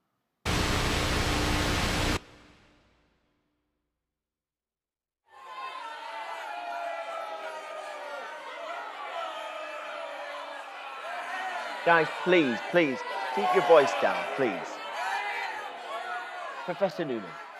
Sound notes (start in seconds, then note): 0.4 static buzzing; 6.4 crowd booing and shouting; 15.8 booing and shouting continuing